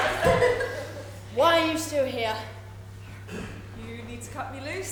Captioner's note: audience laughter